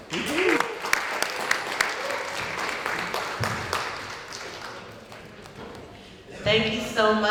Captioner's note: applause